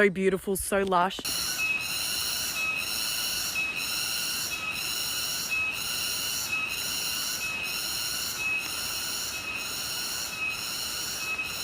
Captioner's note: jungle sounds